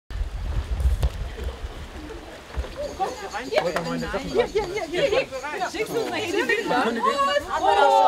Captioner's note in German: Stimmengewirr